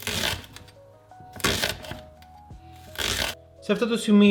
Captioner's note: cutting sound